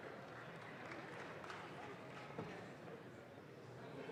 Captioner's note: audience claps